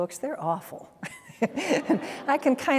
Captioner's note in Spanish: Risas